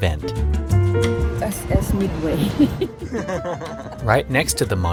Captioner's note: laughs